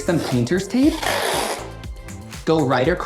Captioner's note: tape ripping